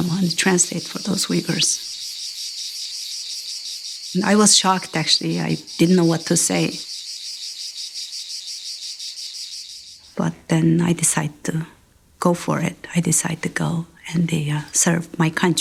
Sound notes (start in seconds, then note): 2.7 insects chirring